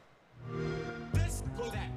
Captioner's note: xbox sound